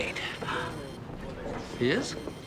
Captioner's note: gasping